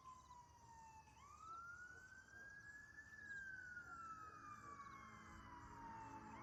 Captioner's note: sirens continue wailing